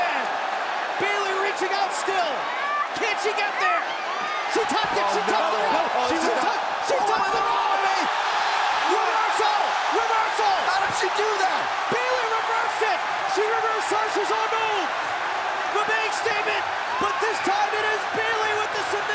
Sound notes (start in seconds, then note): 9.0 crowd cheering